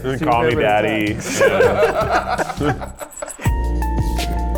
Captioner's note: people laughing; upbeat instrumental music